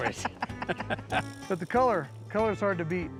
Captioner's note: laughter